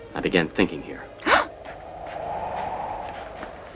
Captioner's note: gasps